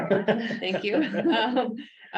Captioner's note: speakers laughing